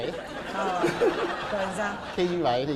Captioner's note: laughing